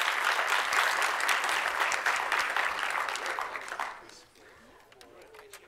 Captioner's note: applause